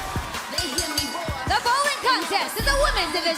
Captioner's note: bell ringing